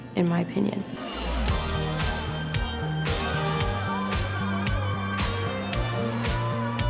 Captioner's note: lively music; people cheering